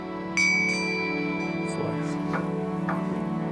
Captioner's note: bell chimes